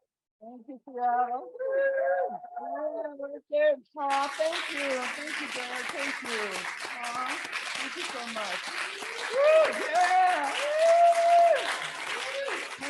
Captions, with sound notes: Thank you, Seattle. (cheers) (audience applauds) Thank you, thank you. Thank thank so much. (cheers)